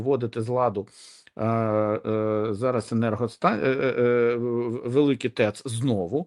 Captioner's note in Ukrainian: сопіння